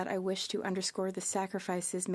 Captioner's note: speaking French